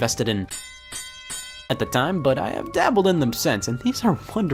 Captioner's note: bell ringing